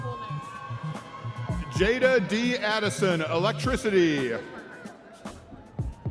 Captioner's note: audience members cheering